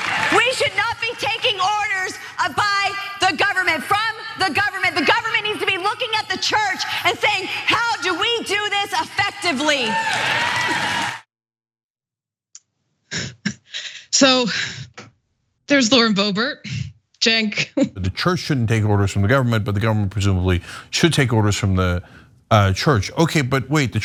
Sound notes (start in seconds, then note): 9.2 applause; 12.4 laugh